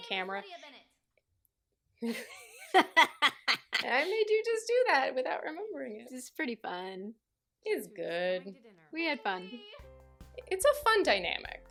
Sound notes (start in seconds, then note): 2.1 laughs maniacally